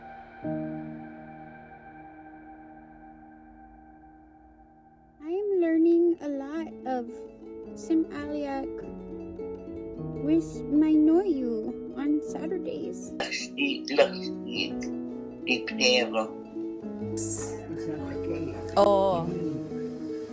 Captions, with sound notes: I'm learning a lot of Sm'algyax with my Noyuu on Saturdays. [speaking Sm'algyax] [speaking Sm'algyax]